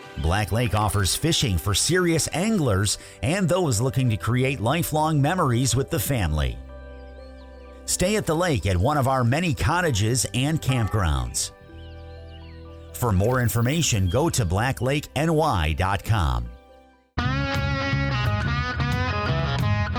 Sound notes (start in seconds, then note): 0.1 birds chirping; 8.2 birds chirping; 11.9 birds chirping; 17.2 upbeat rock music